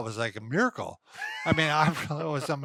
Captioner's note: laughs